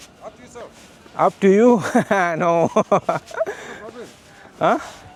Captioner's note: laugh